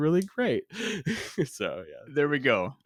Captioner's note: laughs